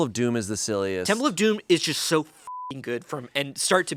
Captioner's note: beep